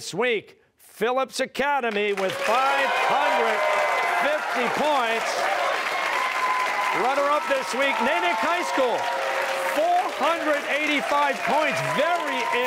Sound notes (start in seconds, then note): 5.9 cheers and applause